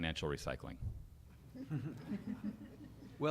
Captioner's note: laughter